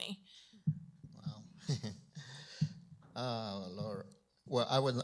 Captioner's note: chuckles